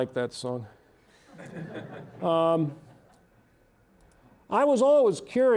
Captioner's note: audience laughing